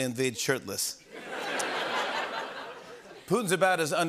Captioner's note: laughter